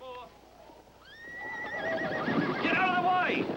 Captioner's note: horse Whinnying